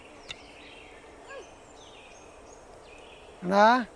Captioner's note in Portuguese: canto de pássaros